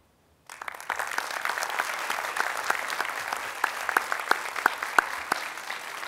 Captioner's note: applause